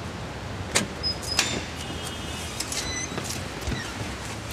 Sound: door screeching

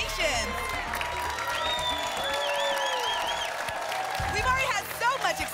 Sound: applause

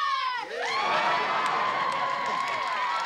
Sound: cheering

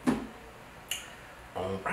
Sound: smack

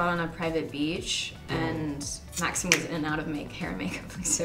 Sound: snaps

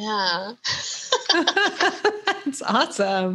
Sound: both laugh

